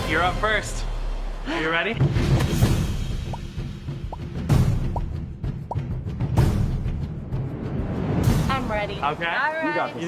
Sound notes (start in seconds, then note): 2.4 intense music; 3.3 popping sound effect